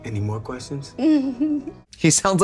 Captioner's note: giggling